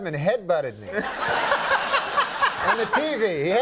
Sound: Conan and audience laugh

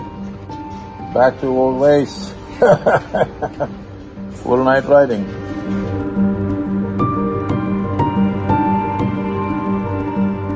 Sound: laughs

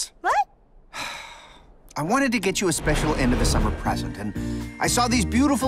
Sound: sighs

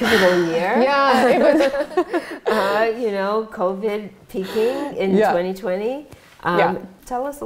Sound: laughs

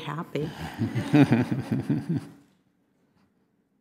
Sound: laughing

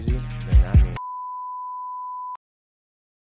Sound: smpte tone

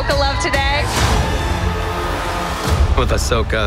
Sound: cheering

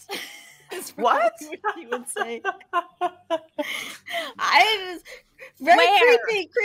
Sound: laughing

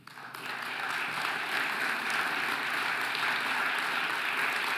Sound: audience applauding

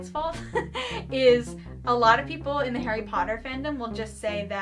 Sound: laughs

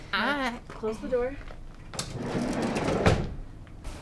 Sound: squealing

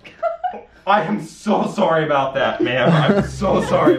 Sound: laughs

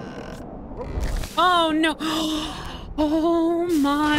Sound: gasp

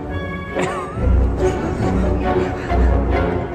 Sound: all laughing

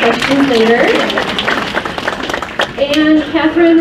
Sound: crowd applauds

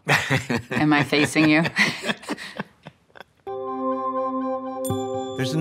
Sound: laughs

